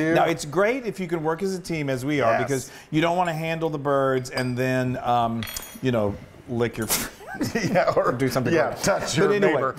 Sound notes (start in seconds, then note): 7.6 laugh